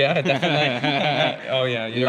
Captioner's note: both laughing